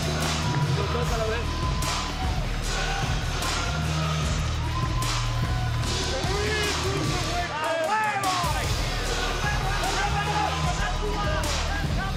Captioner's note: spanish language